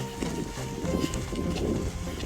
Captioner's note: dragging body